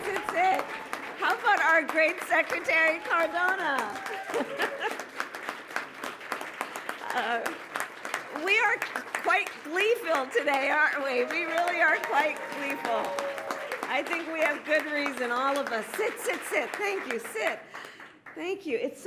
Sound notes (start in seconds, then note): 4.2 applause; 13.2 applause